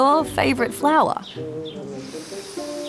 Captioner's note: sniffs